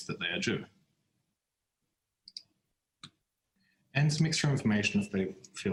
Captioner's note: none